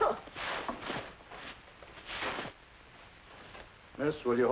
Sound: cough

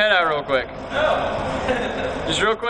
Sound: laughing

